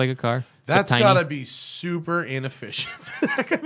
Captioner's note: laughter